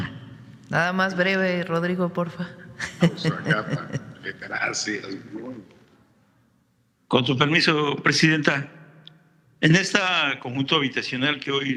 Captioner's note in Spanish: risas